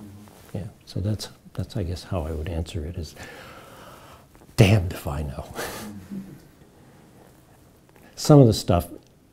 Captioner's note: chuckles